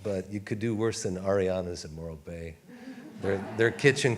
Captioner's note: audience laughs